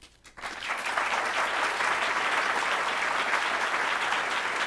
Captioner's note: audience applauds